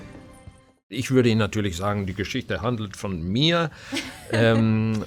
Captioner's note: foreign language; chuckling